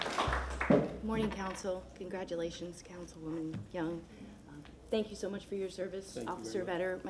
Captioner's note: applause